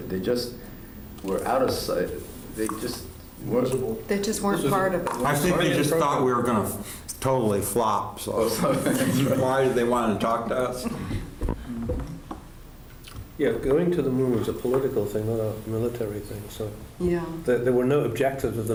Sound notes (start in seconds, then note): 10.8 laughter